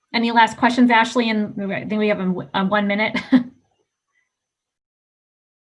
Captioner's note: laughing